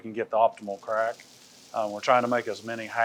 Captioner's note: pecans clicking